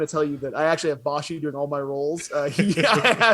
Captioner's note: both laugh